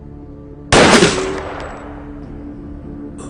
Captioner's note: gun firing